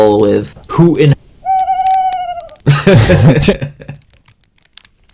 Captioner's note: laughs